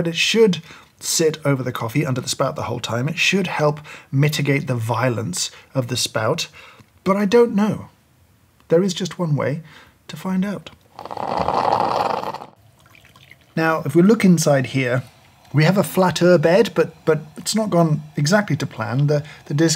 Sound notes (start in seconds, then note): 11.1 coffee brewing